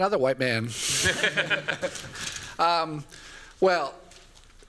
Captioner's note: laughter